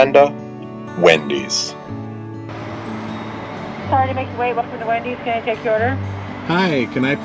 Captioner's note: female voice over intercom